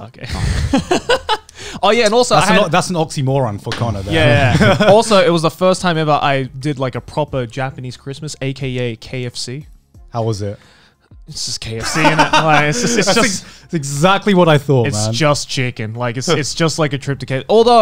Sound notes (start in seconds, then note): 0.4 laughing; 4.2 laughing; 11.8 laughing